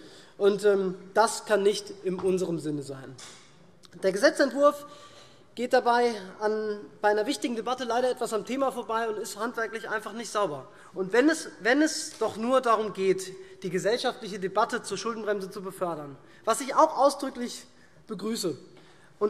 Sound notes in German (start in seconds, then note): none